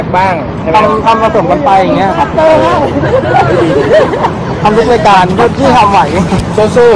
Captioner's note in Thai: เสียงหัวเราะ